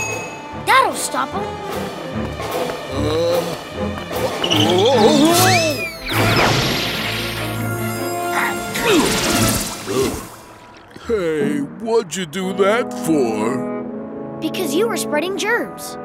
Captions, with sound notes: That'll stop him. Whoa! [crashing] [sneezing] Hey, what'd you do that for? Because you were spreading germs.